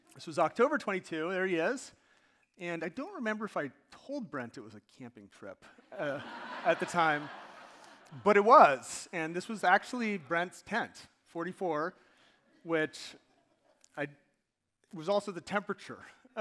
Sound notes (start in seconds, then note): 5.9 audience laughing